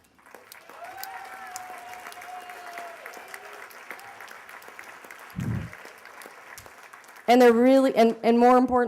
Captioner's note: applause